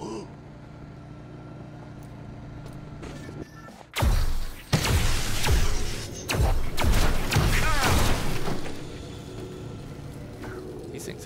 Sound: gun fires

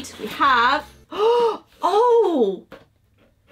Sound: gasps

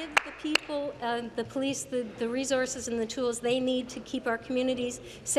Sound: applause

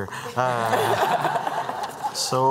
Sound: laughter

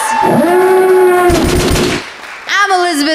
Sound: applause; siren blaring and gun shooting

